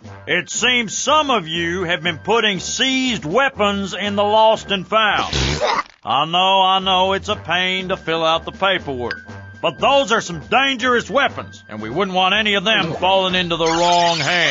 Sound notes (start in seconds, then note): 5.2 spits out coffee